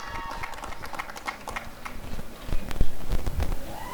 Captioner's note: applause and cheering